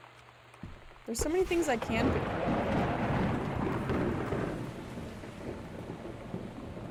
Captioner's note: loud Thunder